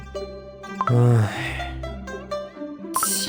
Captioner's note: sighs